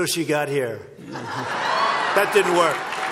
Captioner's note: laughter and applause